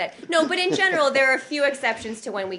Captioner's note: laughter